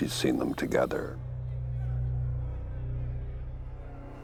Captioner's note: cellmates yelling